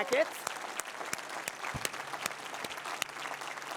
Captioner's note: applause